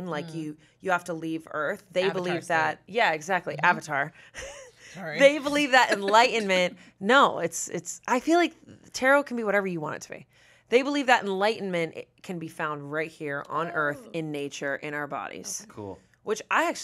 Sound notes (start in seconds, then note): 5.0 laughs